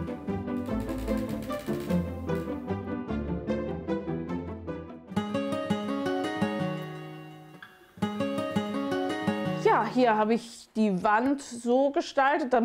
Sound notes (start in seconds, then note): 0.1 playful music; 4.9 dreamy sounds